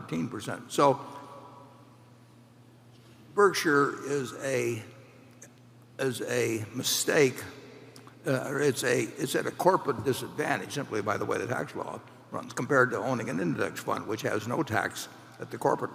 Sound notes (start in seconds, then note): none